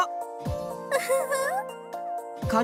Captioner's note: giggle